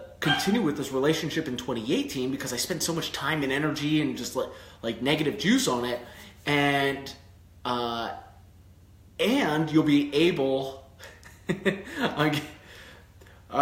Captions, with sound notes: continue with this relationship in 2018, because I spend so much time and energy and just like negative juice on it. And you'll be able (chuckles)